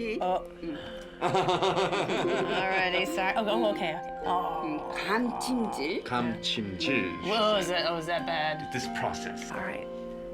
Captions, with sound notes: -Oh... -[ Laughs ] -All right. Oh, okay. Aw. -[ Speaking Korean ] -What was that? Was that bad? -It's this process. -All right.